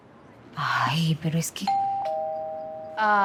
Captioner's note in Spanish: Timbre de la puerta